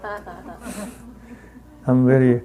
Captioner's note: woman laughing